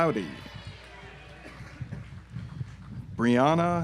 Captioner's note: audience applauds